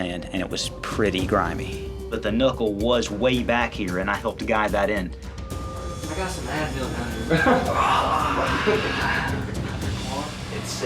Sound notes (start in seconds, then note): 7.2 laughs, groans